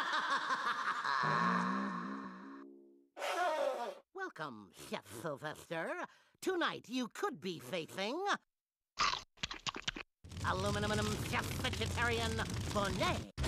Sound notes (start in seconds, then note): 9.0 chomping